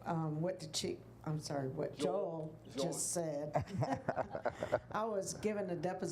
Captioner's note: laughing